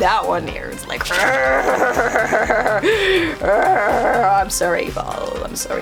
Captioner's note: growls